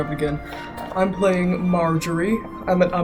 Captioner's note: northern? accent